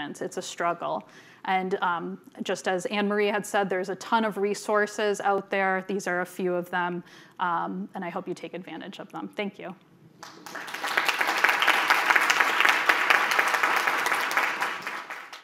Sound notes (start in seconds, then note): 10.2 audience applauding